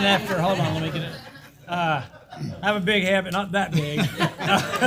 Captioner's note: laugh